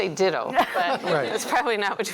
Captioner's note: laughter